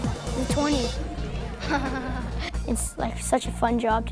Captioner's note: chuckles